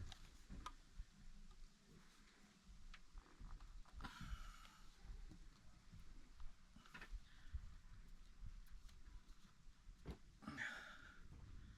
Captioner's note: sighs